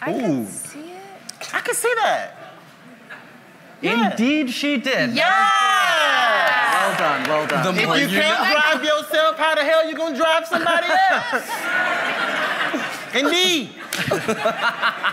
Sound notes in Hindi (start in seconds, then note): 5.2 वाहवाही